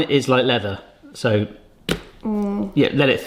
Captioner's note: pancake thuds